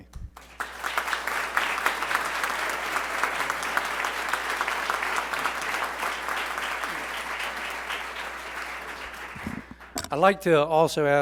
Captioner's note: applause